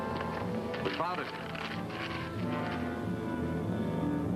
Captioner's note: map crinkling; dramatic music